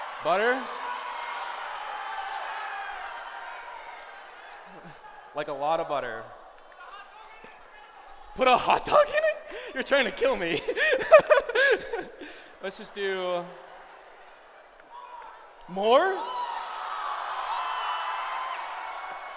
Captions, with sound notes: Butter? [SHOUTING] A lot of butter. Put a hot dog in it! Put a hot dog in it? You're trying to kill me. [LAUGHS] Let's just do-- More! More? [CHEERING]